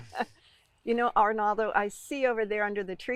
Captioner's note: laughing